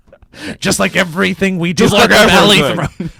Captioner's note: in funny voice